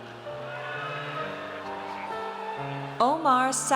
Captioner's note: audience cheers